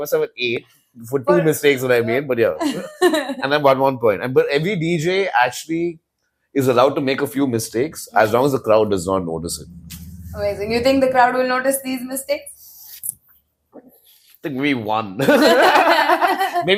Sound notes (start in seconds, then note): 2.6 laughs; 10.1 sigh; 15.6 laughs